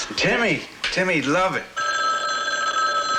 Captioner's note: phone rings